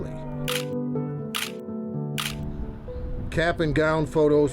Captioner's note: camera shutter clicks